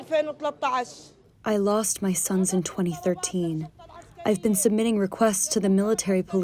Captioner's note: through translator